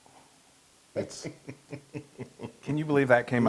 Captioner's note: laugh